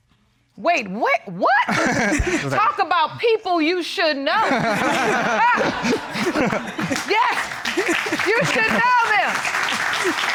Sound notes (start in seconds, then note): 1.7 both chuckle; 4.4 all laughing